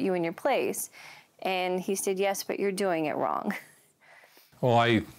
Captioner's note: chuckles